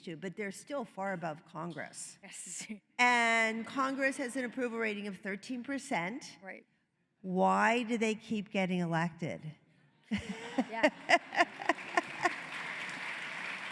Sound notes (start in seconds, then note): 10.3 applause